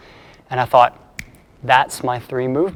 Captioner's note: snapping fingers